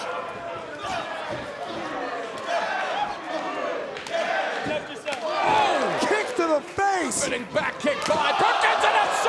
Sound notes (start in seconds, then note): 0.0 crowd chanting